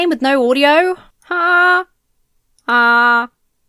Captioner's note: hums tune